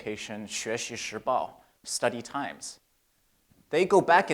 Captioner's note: speaks in Chinese